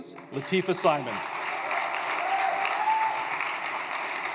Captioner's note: applause